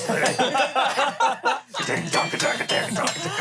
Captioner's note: everyone laughs